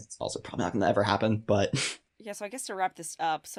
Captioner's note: chuckles